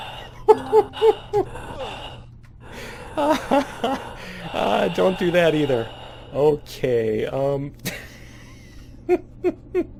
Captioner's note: laughs; player gasping; laughter continues; laughing